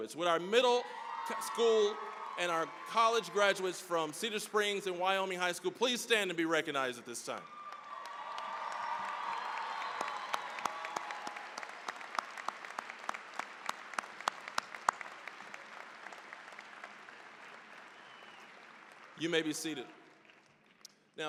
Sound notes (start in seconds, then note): 7.3 cheering, applause